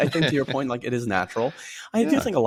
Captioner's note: chuckles